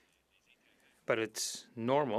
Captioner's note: speaking French